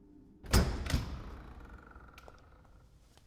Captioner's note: door Opens